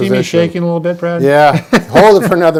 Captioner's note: laughing